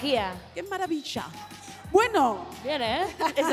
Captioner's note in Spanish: con acento argentino